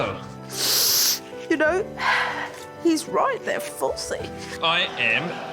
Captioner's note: sniffles; sighs